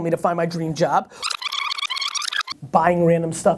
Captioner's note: rewind sound